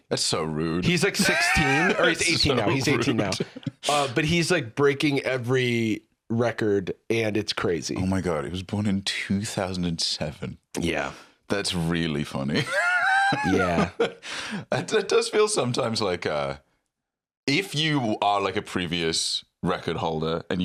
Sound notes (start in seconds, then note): 12.5 laughs